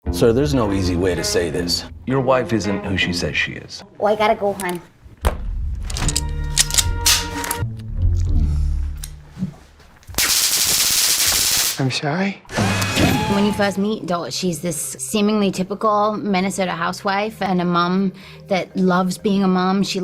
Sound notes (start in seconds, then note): 5.8 gun cocking; 10.1 electricity sizzling